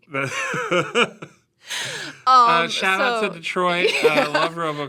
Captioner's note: laughs